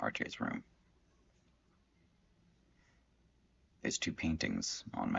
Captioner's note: silence